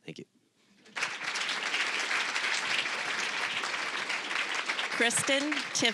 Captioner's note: applause